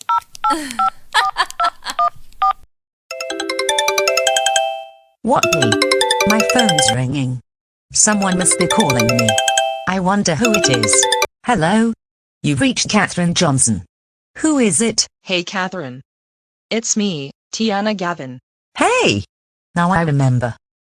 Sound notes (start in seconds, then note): 1.1 cell phone dial, chuckling evilly; 3.1 ringtone